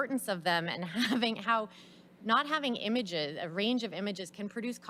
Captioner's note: laughs